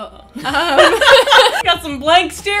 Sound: both laugh

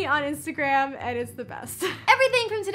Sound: chuckles

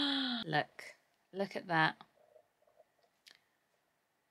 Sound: gasps

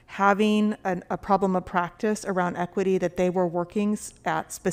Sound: none

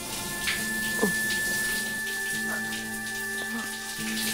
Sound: murmuring sounds

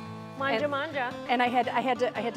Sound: speaks in foreign language

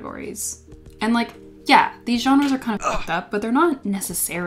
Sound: grunt

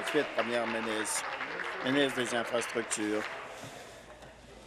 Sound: applause

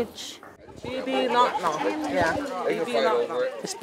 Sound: foreign language

